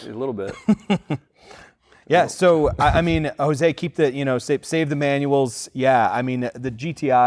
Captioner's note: laughs